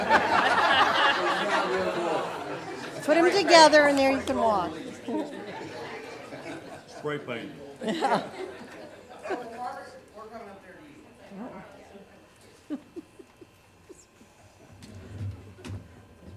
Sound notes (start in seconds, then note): 0.0 laughter; 6.4 murmured chatter